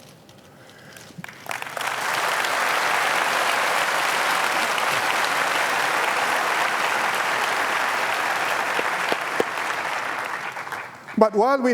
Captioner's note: applause